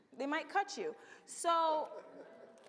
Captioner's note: audience laughs